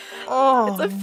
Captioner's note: laughs